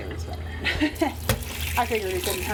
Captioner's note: chuckles